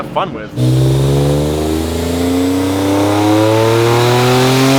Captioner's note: car engine roaring